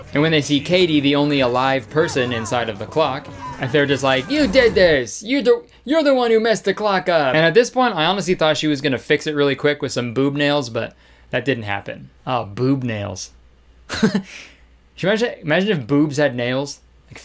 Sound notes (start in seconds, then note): 13.1 laughing